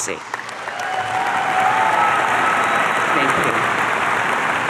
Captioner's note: audience cheering